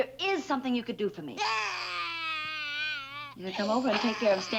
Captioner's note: Stanley cries